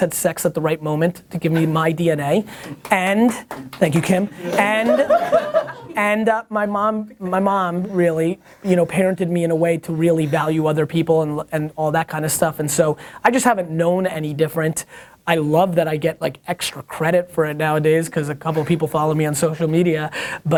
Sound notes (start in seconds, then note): 3.4 applause; 4.4 laughter